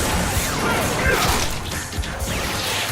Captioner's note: grunting